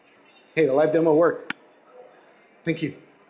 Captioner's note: clap